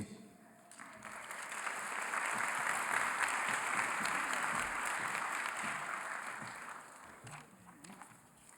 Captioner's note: applause